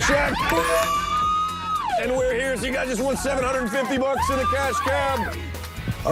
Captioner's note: cheering